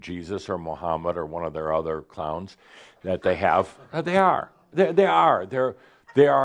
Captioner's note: some gasps and chuckles